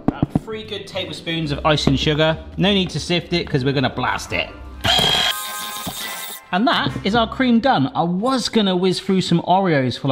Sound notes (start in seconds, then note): 0.0 knocking icing sugar tub; 4.8 electric whisk whisking